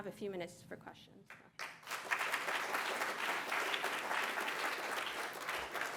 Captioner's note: applause